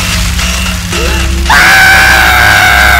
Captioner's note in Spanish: Grito